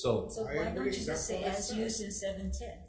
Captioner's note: vice Chair speaks faintly